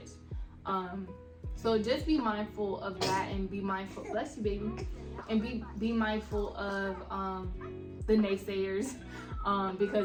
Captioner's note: sneezed* --bless you baby